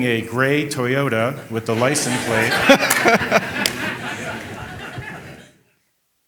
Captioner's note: audience laughing